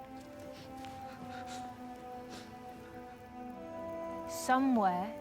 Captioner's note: Volnard whimpers